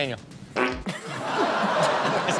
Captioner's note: farts; everyone laughing